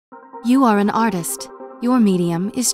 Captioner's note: voiceover